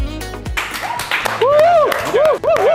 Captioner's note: applause